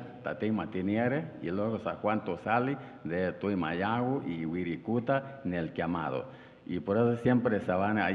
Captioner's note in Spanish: habla en wixárika; habla en wixárika